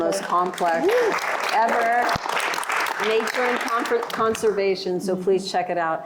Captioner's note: applause